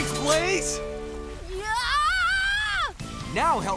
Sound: screaming

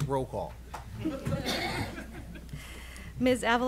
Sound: laughing

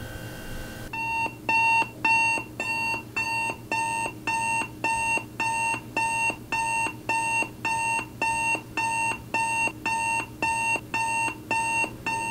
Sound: alarm clock

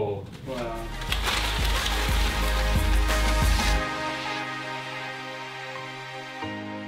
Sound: crash and rustling fade away

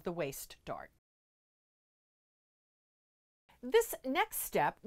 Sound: no Sound Present

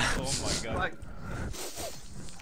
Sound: more sniffing

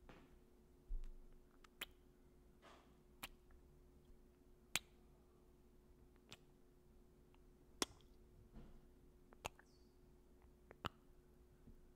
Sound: kissing

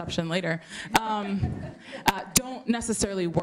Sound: laughter

